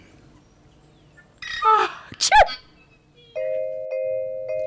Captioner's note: intro music; sneeze